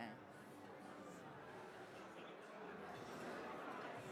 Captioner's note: background chatting